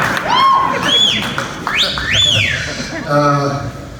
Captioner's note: audience laughs; whistling